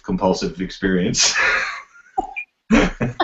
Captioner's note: laughs